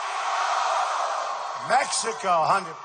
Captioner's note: crowd